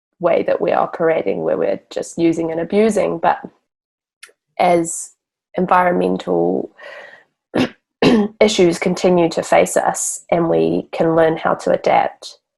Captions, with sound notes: way we are creating where we're just, using and abusing but as environmental (clears throat) issues continue to face us and we can learn how to adapt,